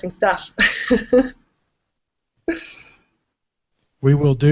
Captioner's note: giggling